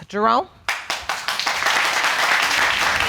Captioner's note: audience applauds